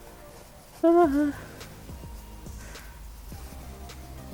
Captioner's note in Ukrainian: звук переляку